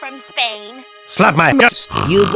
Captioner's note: jokingly; snorts